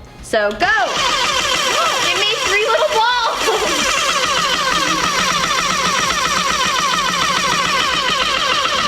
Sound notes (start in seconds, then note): 5.0 machine whirring